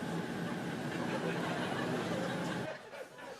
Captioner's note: laughter